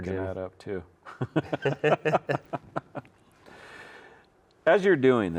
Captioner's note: both laughing